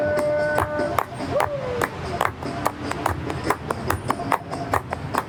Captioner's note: clapping